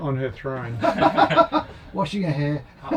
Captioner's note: laughing